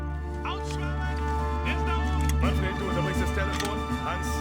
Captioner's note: speaking german